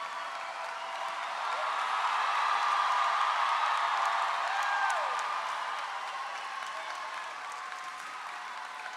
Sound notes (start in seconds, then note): 2.3 crowd cheers; 2.3 crowd claps